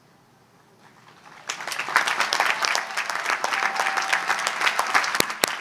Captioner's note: audience applauds